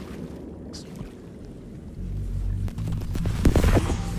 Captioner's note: gunshots